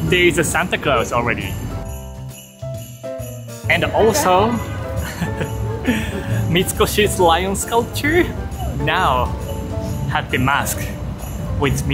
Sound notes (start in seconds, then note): 4.6 chuckles